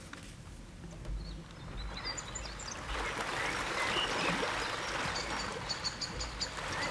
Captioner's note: birds chirping; water rippling